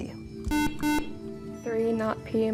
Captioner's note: beeping